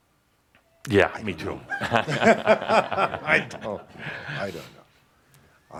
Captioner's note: chuckle